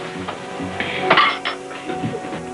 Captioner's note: dishes clattering